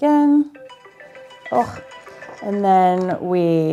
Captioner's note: phone ringing